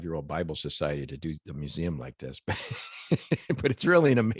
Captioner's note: laughs